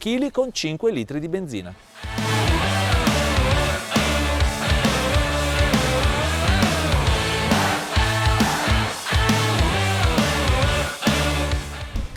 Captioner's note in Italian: Applauso